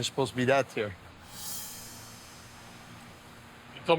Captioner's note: sound whooshing